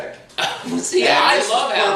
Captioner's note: laughs